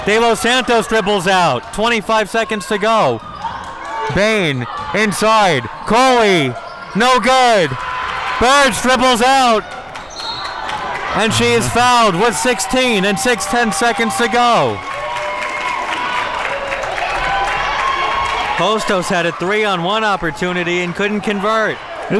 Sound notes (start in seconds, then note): 10.2 whistle blows; 14.9 audience cheering